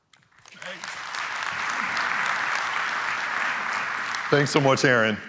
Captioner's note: applause